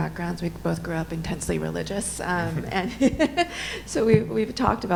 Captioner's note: laughs